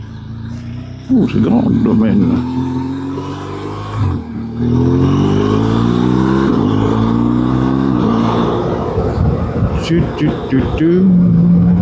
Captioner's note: engine